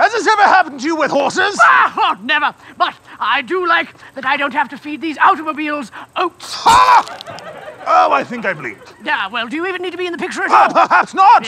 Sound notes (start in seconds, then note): 7.0 camera click